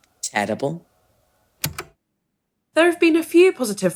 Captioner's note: tape recorder clicks off